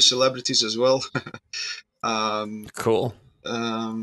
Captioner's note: laughs